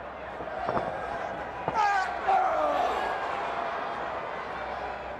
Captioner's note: wrestlers grunt